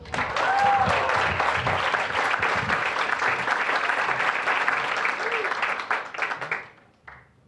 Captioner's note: applause